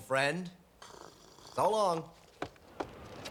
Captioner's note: snores